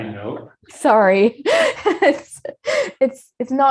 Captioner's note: laughs